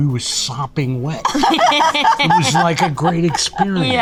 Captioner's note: Rhea and Lucy laugh